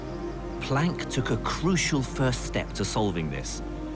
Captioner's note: voiceover